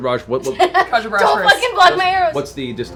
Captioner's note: laughs